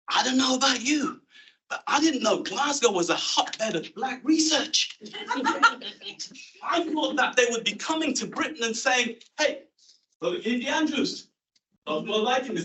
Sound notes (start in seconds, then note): 5.0 laughter